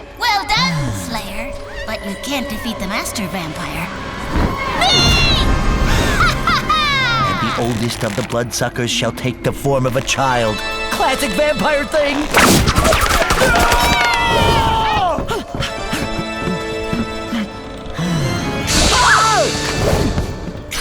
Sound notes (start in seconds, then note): 14.1 Hank roars; 16.1 spooky organ music